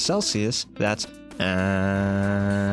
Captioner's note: pained soul escaping body noises